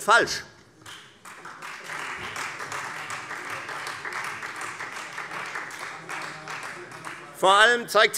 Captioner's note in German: Beifall Freie Demokraten